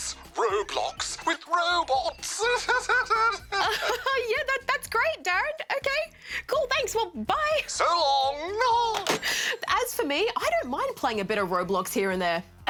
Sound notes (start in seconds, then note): 2.9 chuckles